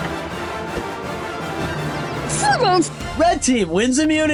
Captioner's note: mouth full